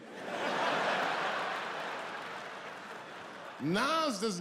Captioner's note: audience laughing